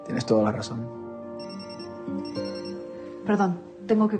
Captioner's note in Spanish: Suena el celular